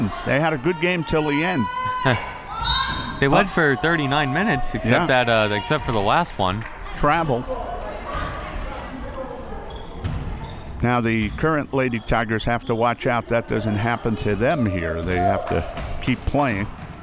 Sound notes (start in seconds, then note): 2.6 whistle